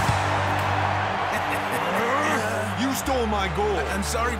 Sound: chuckling

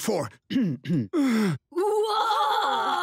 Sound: clears throat, exhales

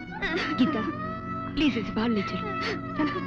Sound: sobbing

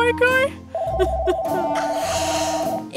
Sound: phone rings

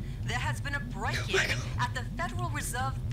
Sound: whispers

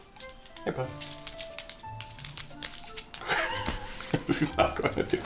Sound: laughs

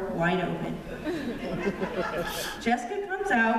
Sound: laughter

